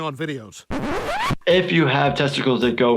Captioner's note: record scratches